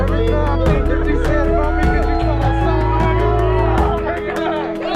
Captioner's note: friends cheering